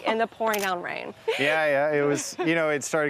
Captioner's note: laughs